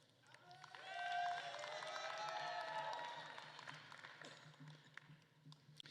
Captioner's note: attendees cheering and applauding